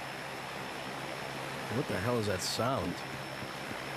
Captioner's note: low rumbling